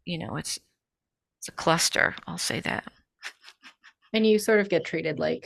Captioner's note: chuckles